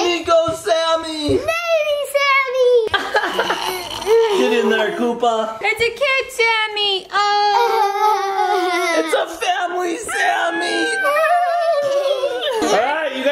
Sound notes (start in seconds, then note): 3.0 laughs; 10.1 family giggles